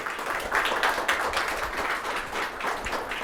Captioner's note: applause